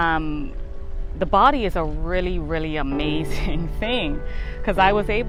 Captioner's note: chuckles